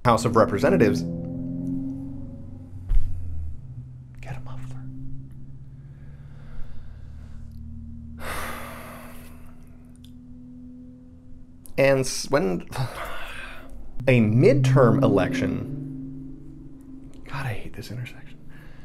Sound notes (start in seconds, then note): 2.3 car revving down street; 10.1 revving continues; 14.2 car revving down street